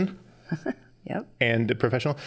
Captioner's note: chuckling